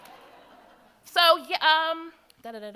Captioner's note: audience laughs